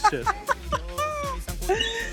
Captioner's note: laughs